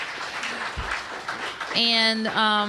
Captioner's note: applause